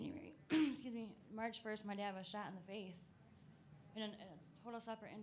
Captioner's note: coughs